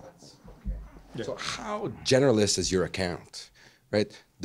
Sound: voiceover

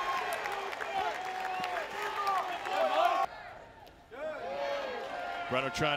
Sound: crowd

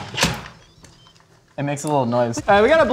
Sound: lid clanking; lid shunting; electronic beeping

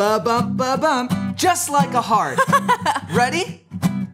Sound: laughing

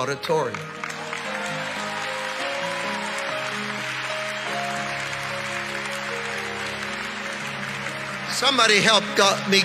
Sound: congregation applauding

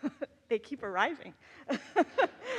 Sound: laughs

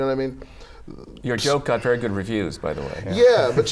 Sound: laughter

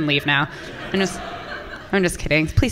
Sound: audience laughing

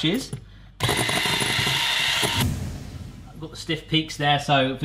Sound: whisk whirring

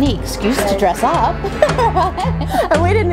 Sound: laughs

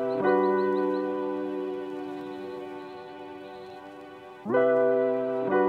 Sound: sounds of birds in the distance; warm, upbeat, Introduction music plays

